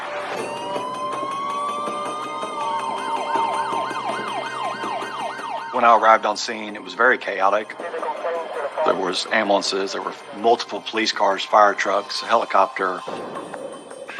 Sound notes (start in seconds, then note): 2.4 police sirens blaring; 4.8 suspenseful music